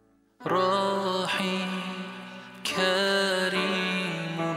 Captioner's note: non-english speech